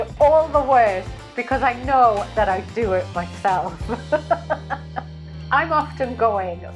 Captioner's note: laughs